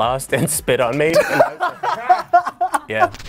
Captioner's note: both laugh